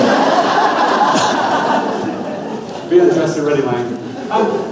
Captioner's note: audience laughs loudly